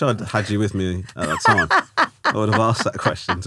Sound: laughing

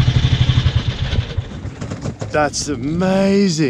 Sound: engine dies

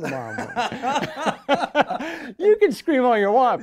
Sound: laughing

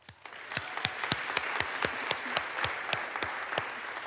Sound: audience applauds

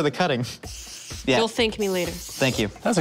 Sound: spraying

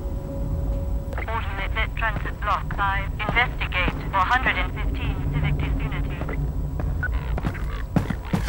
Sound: radio

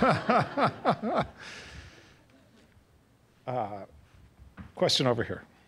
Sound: laugh

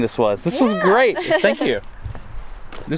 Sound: laughs

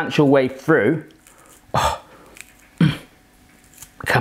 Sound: grunting

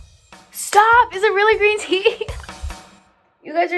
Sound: laughing

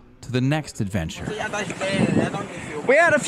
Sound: locals speaking Portuguese

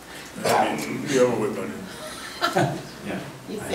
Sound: murmurs

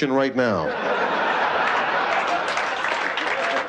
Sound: laughter

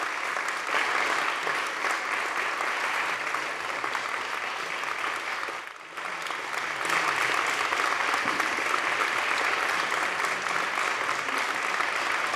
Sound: applause

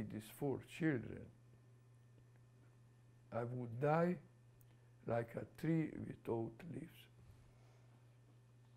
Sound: pauses for 3 seconds

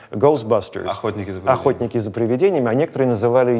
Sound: in Russian

